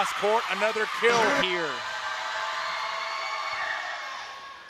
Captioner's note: cheering